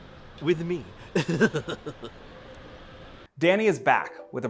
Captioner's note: laughs